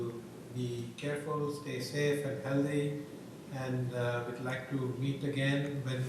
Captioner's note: off microphone